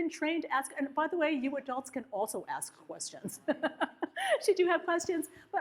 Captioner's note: laughs